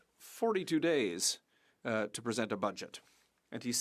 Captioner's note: speaking French